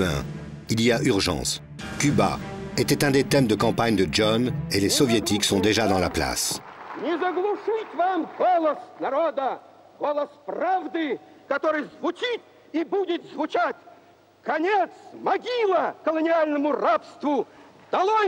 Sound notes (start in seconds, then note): 4.7 Russian spoken audio